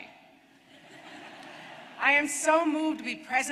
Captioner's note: laughter